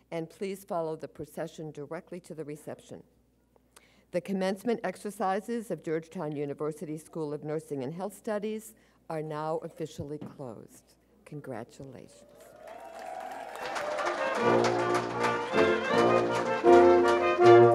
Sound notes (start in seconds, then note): 12.2 audience wooing; 13.9 orchestral music